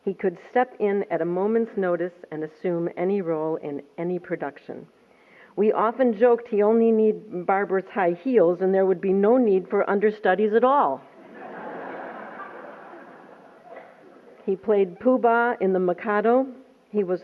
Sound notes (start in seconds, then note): 11.2 laughter